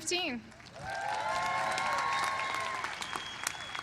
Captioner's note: applause